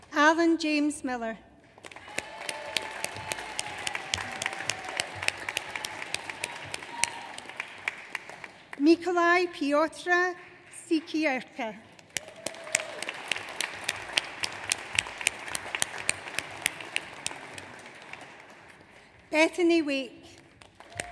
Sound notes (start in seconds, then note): 1.7 audience applauds; 12.0 audience applauds